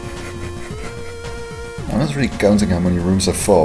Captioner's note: nose laugh